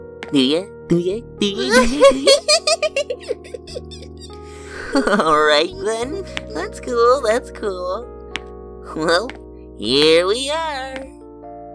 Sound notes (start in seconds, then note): 1.6 giggles